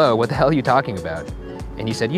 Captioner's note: none